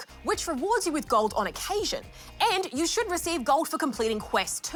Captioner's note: none